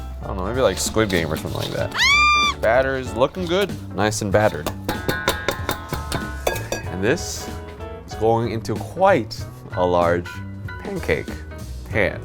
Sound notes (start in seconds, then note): 5.0 metal whisks clanging on metal bowl